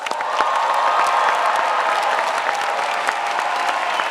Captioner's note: crowd applauds